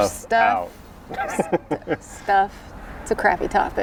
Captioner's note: laughs